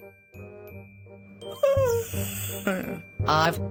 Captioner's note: yawns